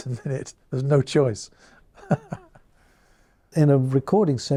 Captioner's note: chuckles